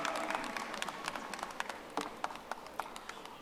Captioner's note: audience applauding